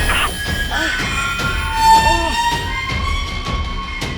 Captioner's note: Danny groans